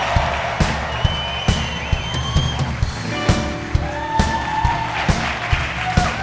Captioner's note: crowd cheering and clapping